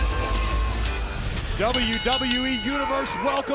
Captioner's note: bell dinging